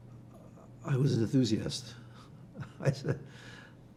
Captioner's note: laughing